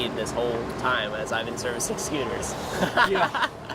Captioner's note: laughs